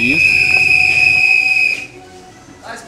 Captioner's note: whistle